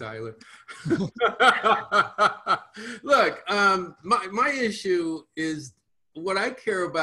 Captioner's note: laughs